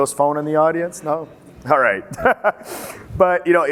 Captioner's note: laughs